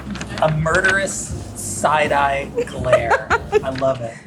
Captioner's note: laughing